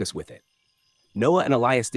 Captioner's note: pause